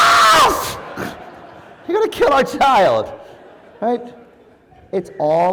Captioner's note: laugh